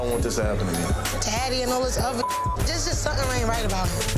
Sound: beep

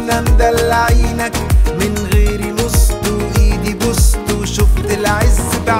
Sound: begging

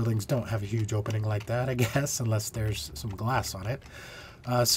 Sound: laughter

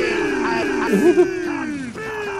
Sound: laughing

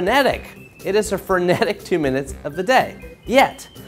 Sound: chuckles

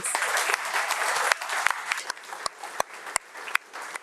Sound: audience applauding

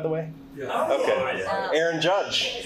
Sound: chattering

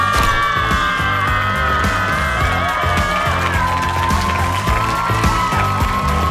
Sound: audience cheering

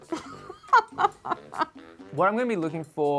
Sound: laughs

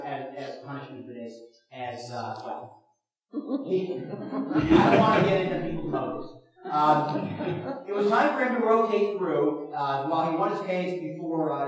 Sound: chuckles from audience

